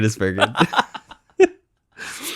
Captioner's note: laughs